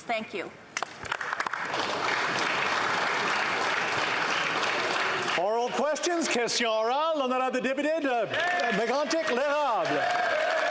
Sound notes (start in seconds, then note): 8.2 some Applause